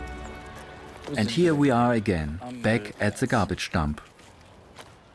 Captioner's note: in German